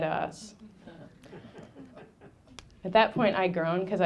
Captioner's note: audience laughing